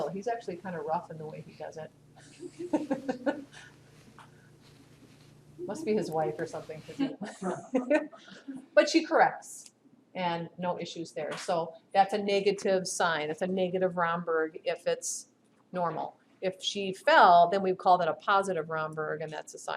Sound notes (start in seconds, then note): 2.3 laughter